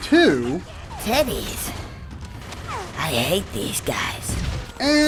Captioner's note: game audio